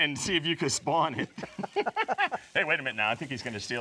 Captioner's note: both laugh